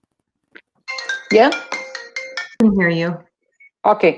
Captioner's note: phone ringing